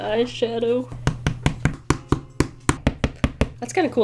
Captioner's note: kneaded eraser thudding